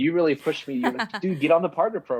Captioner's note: woman laughs